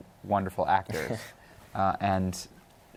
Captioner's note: chuckles